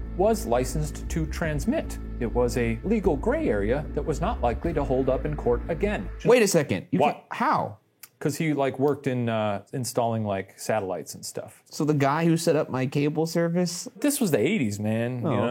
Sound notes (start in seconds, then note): none